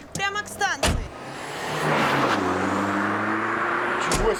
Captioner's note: car sounds